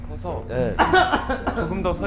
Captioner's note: coughing